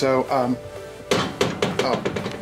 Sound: clanking

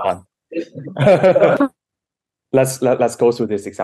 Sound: laughing

